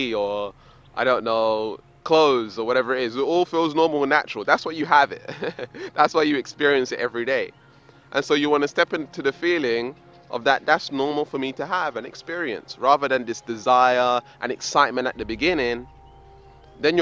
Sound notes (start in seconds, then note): 5.1 laughs